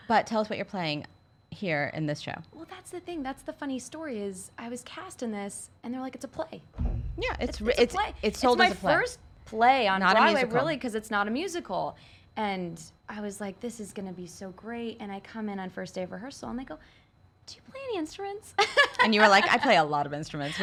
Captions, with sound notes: But tell us what you're playing here in this show? - Well that's the thing that's, the funny story is, I was cast in this, and there like it's a play. (pounds on table) - Yeah, it's sold as a play. - It's my first play on Broadway, really 'cause it's not a musical, and I was like, this is gonna be so great, and I come in on the first day of rehearsal. And they were like, "Do you play any instruments?" (laughs) - And you were like, "I play a lot of instruments,